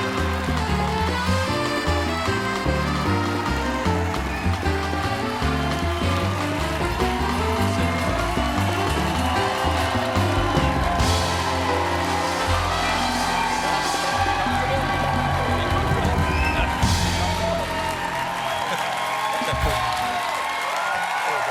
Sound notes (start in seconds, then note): 1.3 band playing; 1.3 cheers and applause; 11.3 band playing; 11.3 cheers and applause